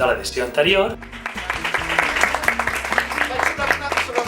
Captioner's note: applause